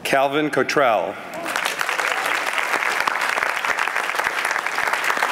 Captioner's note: applause